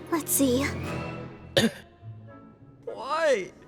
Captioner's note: Kan coughs